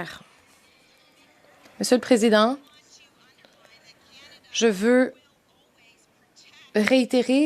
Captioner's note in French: voix de l'interprète